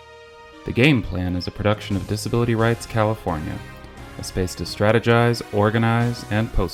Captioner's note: triumphant music plays; voiceover